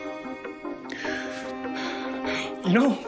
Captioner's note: breathes deeply